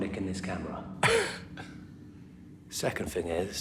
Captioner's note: Danny laughs